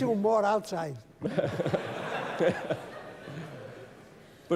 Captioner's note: laughter